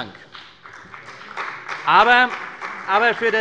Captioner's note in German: Beifall bei der CDU und dem BÜNDNIS 90/DIE GRÜNEN